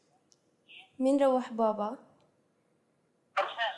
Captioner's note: non-english speech